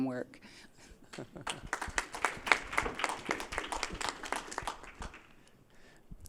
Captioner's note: applause